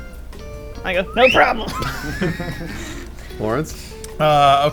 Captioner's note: whistling; laughing